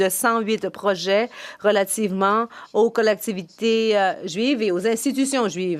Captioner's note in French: voix de l'interprète